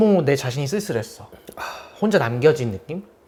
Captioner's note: moans